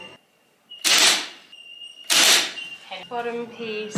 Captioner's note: nail gun fires into wood